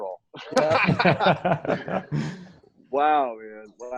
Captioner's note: laughing